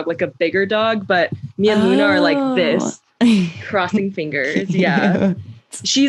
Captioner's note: laughter